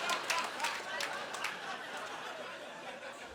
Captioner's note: laughing